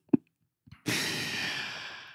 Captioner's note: laughs